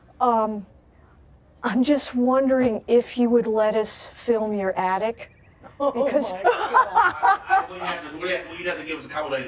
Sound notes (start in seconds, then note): 5.7 laughing